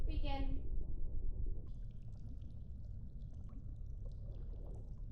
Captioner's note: water gurgling